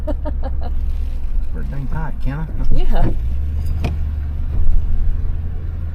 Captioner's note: nervous laughing